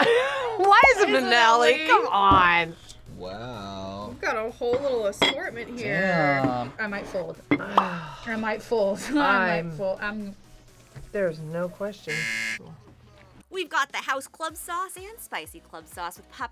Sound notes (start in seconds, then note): 0.3 laughs; 12.1 buzzer rings